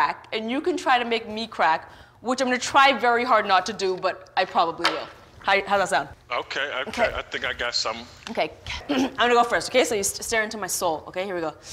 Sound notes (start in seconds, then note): 8.8 clears throat; 11.4 inhales deeply